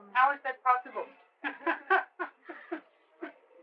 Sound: laughter

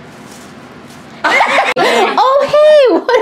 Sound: laughs

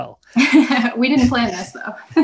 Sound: laughs

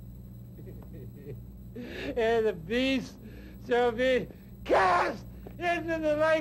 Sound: pitiful laughter

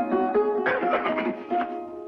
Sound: coughing

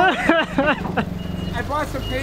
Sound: laughing

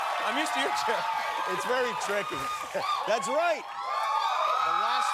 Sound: cheers and applause

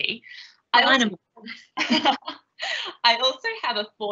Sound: laughs

